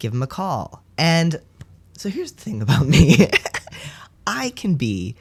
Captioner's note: laugh